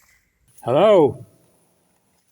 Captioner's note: echoes